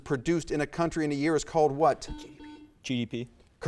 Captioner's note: buzzer buzzes